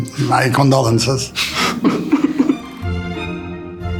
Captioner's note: both laughing; classical music